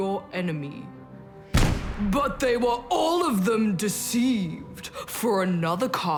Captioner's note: crash!